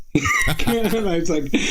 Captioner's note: laughing